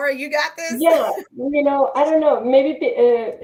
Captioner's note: chuckles